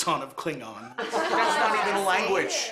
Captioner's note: laughter